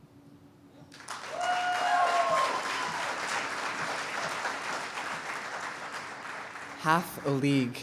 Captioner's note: cheers and applause